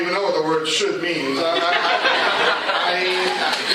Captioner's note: laughter